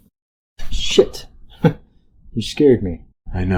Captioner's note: chuckles